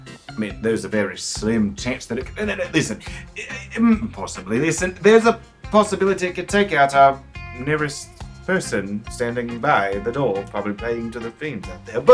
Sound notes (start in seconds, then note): 3.1 stammering